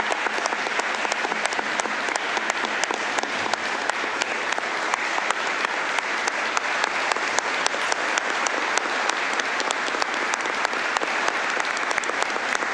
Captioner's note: applause